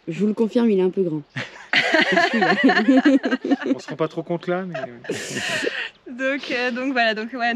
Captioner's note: laughs